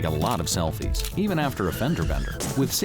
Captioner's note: brakes squeal, cars crash